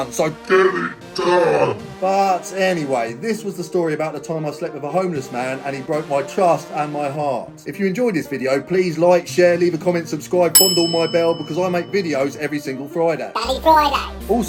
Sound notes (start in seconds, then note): 10.5 bell dings